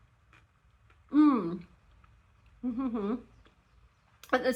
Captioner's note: thoughtful mouth noises